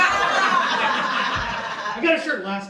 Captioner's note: audience laughs